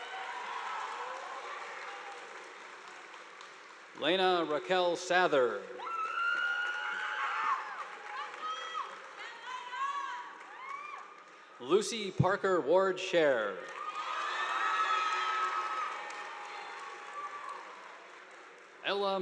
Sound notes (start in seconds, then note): 0.0 audience applauding; 6.1 students shouting; 13.6 students cheering; 13.6 audience applauding